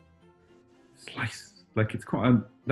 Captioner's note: whispers